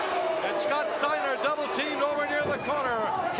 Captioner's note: crowd cheering